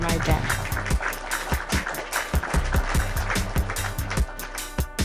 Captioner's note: group claps